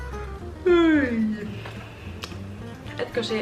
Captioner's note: yawns